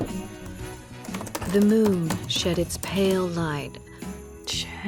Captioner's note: typing